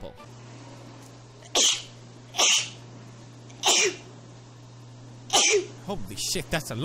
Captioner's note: sneezing